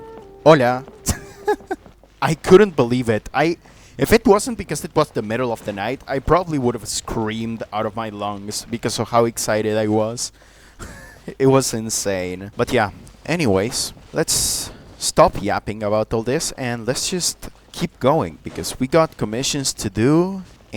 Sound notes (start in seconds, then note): 1.0 laughter; 10.4 wheeze